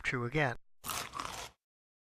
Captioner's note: chomp